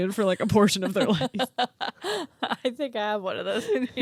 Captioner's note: both laugh